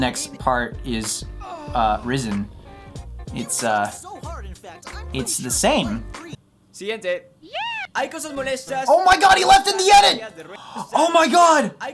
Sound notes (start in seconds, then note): 6.2 Spanish